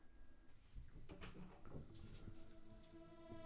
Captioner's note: A door opens; eerie ambient music